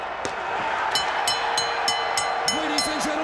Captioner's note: bell ringing